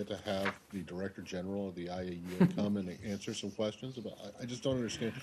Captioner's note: laughter